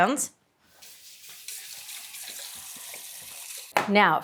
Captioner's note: water running